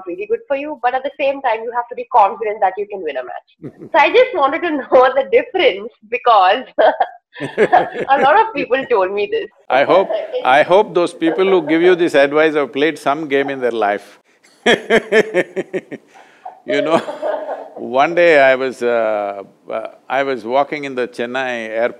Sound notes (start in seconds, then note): 3.6 Sadhguru laughs; 3.6 laughs; 14.6 both laugh